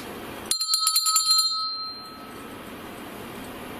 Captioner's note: bell rings